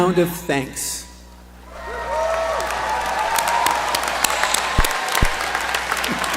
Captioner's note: applause